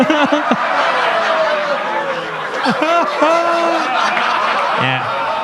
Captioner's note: laughs; audience laughs